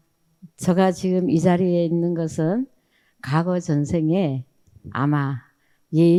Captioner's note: speaking in foreign language